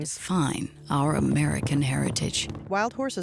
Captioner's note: horses galloping